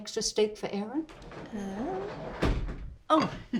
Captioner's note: sliding door bangs